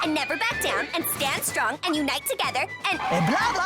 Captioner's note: gasps